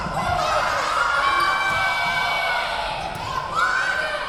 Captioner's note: yelling